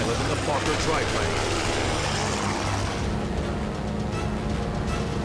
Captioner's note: weapons firing, music playing